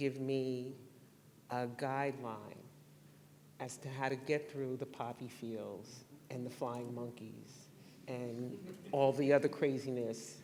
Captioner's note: laughter